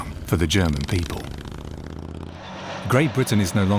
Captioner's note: motors rumbling